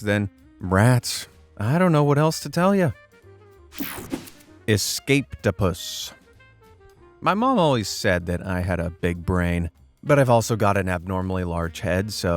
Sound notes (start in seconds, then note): 3.8 air whooshing